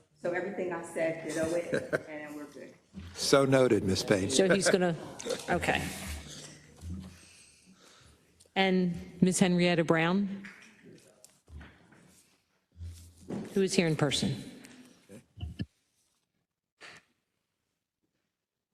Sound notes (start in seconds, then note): 4.3 laugh